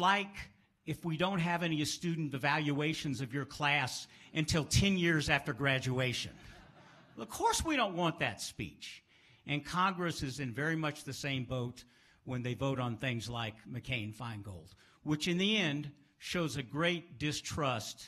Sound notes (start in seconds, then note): 6.4 laughs